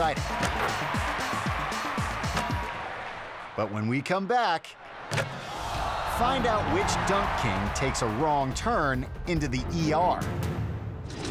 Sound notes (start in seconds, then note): 0.0 lively music; 0.0 audience cheering; 5.0 audience gasping; 10.1 suspenseful music